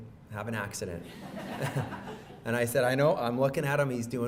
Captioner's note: audience laughs